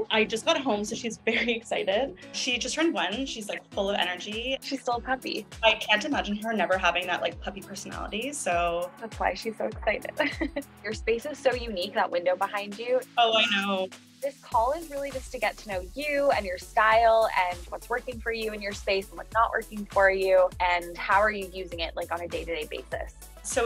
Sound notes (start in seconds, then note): 10.2 giggles